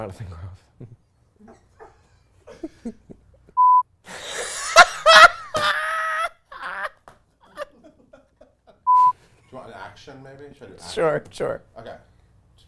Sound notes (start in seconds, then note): 3.9 giggles; 4.1 laughs